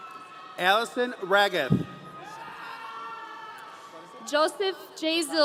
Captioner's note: audience cheering